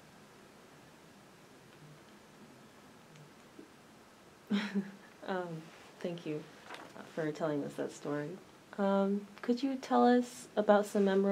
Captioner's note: laughs